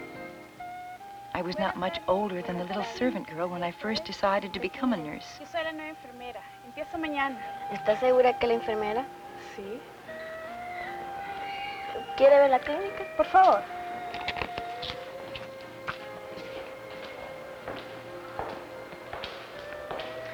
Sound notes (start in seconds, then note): 5.9 speaking Spanish; 20.1 speaking Spanish